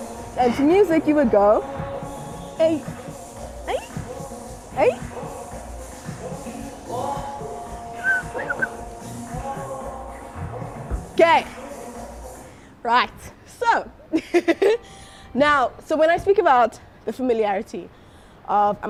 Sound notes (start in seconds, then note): 8.0 whistles